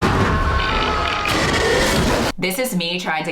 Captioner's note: growl